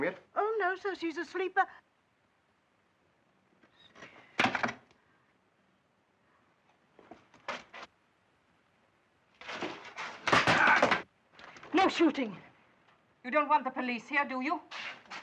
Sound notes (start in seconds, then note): 4.4 chair clatters to the ground; 9.4 chair breaking forcefully